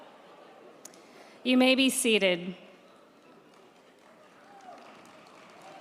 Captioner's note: crowd cheering